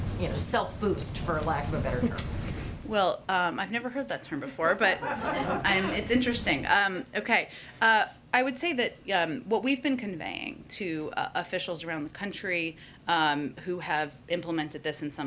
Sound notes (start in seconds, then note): 4.9 laughter